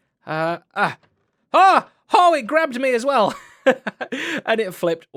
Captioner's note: laughs